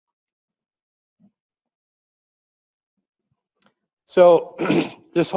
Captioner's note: pause